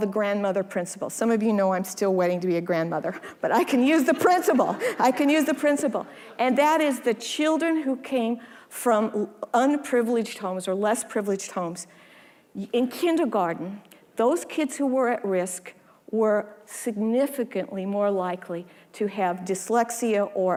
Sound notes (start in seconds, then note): 3.8 audience laughing